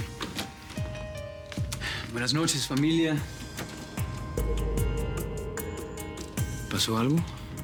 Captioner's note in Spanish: Ruido de la puerta